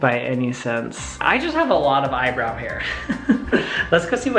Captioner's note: laughs